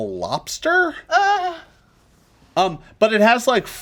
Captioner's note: Lys whimpers